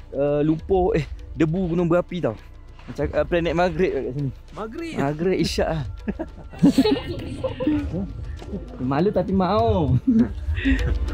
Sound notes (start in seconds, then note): 5.8 laugh